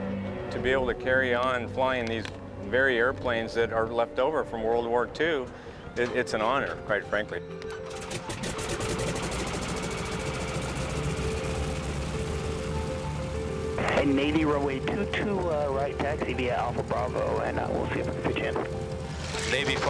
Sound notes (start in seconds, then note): 7.7 sound of engine starting up